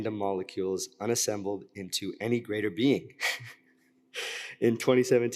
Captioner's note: chuckles